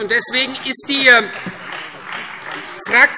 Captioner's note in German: Beifall Freie Demokraten